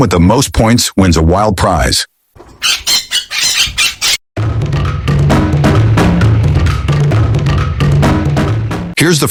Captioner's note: squawk